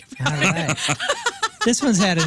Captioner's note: laughing